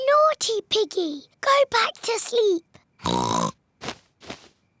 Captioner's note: oinks